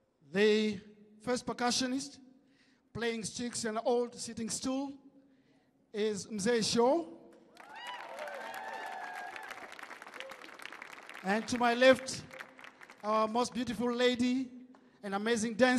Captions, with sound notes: The first percussionist, playing sticks and the old sitting stool is Mzee Show. [audience cheering] [audience clapping] And to my left, most beautiful lady and amazing dancer,